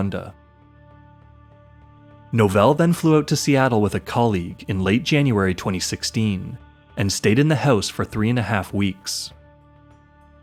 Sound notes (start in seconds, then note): none